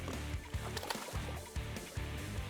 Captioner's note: water splashing; upbeat country music